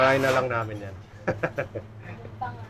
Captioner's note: laughs